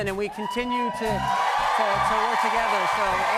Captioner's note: cheers and applause